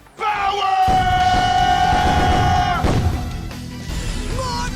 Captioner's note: explosions